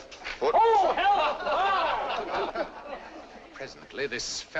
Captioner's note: audience laughs